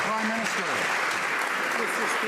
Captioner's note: some Applause